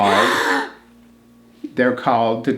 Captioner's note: yawns